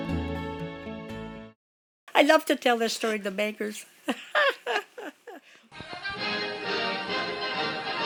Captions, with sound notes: I love to tell that story to bankers. [laughs]